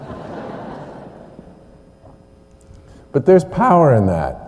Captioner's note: laughter